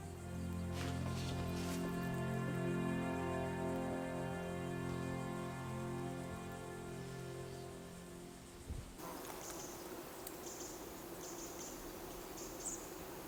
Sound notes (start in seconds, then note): 2.0 calming music continues; 7.4 birds chirping; 7.4 insects buzzing